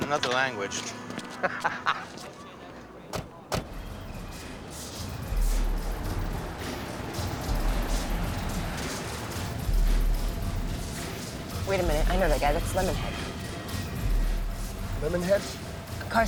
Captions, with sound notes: (laughs) (percussion track blaring) Wait a minute, I know that guy. That's Lemonhead. Lemonhead?